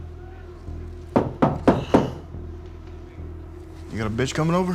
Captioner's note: door knocks